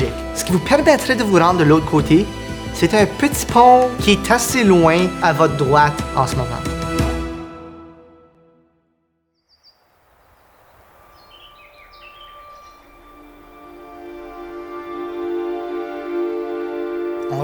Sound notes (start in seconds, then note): 9.4 chirping birds; 13.1 mysterious music